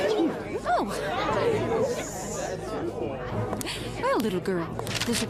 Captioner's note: courtroom audience chatters in surprise